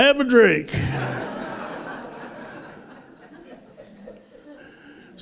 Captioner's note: laughter